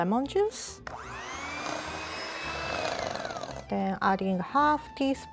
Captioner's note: hand mixer whirs